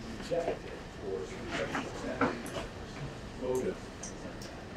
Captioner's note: speaking away from mic